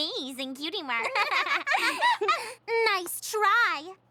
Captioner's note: both laugh